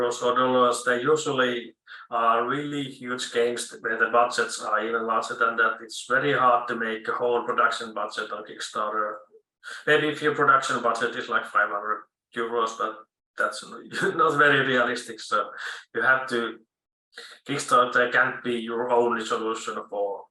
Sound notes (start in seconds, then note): 15.5 chuckle